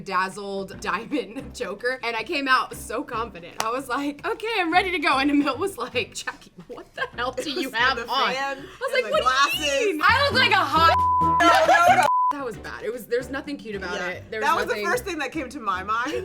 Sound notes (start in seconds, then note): 10.8 beep